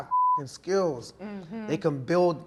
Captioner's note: beep